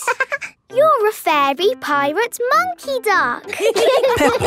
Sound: quacking; laughing; laughter

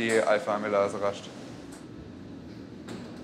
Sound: soft whirring

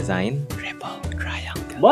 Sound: whispers

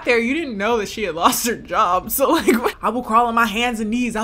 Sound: laughs

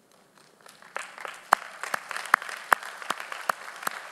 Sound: audience applauding

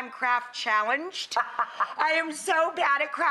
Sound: laughs

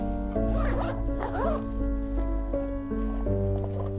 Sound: zipping and shuffling noises

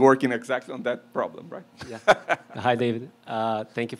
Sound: laughs

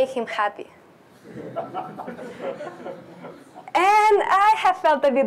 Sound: laughter

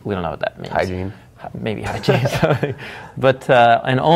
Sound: laughing

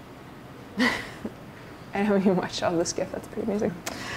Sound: laughs

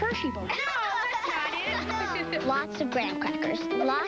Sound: children's laughter

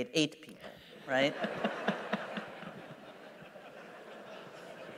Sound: laughter

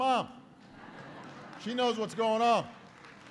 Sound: laughter

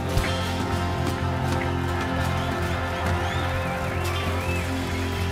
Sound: audience cheering

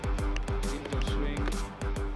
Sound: TV playing

